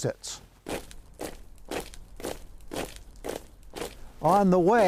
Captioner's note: boots marching